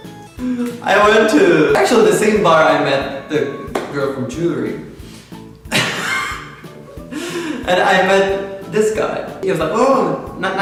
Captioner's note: haha